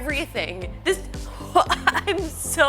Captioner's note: laughs